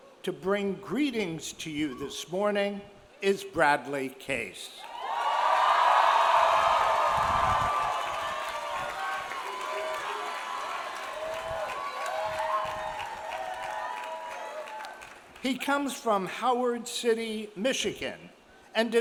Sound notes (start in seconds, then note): 4.8 audience cheers; 4.8 audience applauds